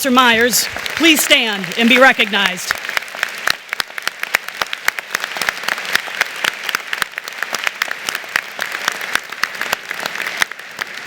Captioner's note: applause